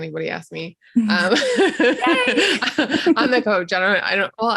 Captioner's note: both laughing